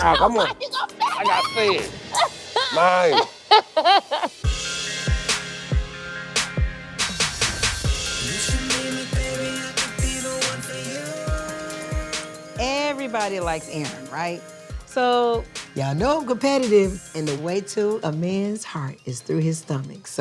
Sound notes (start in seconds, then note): 2.1 laughing